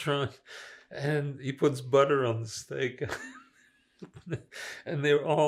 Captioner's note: laughing